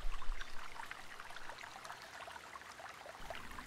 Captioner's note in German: Plätschern des Baches